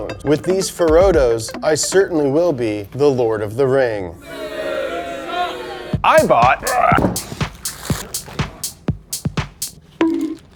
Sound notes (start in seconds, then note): 4.2 audience booing; 6.0 upbeat music